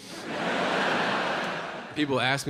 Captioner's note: audience laughing